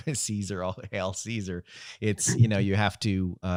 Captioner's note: chuckling